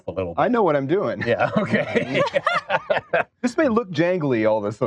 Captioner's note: laughs